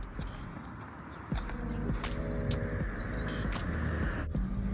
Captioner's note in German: Vögel zwitschern